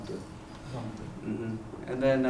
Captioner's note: non-english